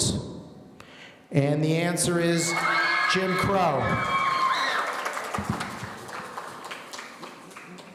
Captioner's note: audience cheering